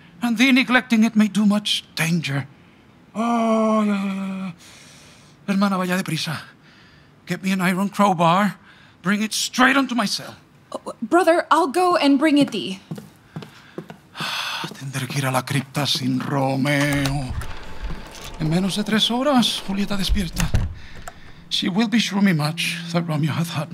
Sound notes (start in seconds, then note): 12.8 footsteps departing; 16.5 door opening; 20.3 door closing